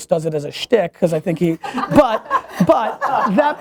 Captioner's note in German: Lachen